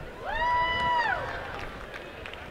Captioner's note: applause and cheering